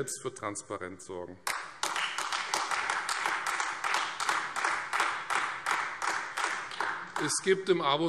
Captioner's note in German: Beifall Freie Demokraten und AfD